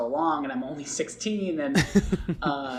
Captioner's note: laughs